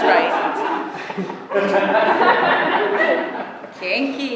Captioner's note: laughter